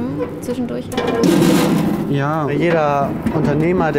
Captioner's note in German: Scheppern